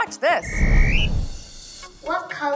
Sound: whistle blowing

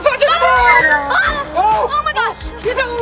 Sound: scream

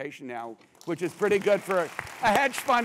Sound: applause

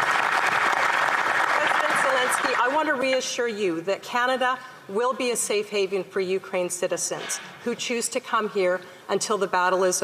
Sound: applause

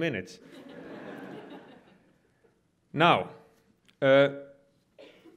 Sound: audience laughs

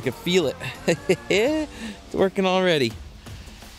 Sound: chuckling

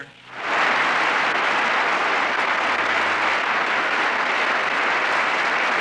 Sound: applause

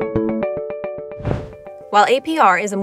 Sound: gentle music; graphic whooshes

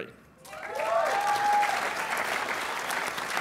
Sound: applause

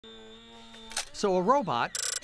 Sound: robot whirring; electronic sound

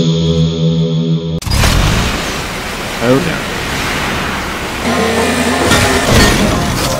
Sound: the sucking

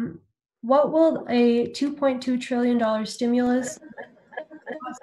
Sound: microphone feedback

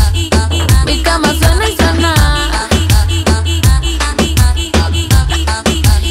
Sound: chirridos

